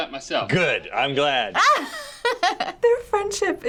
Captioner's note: laughing